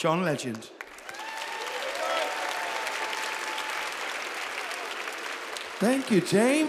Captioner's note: audience applauds